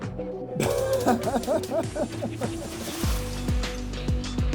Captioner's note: laughing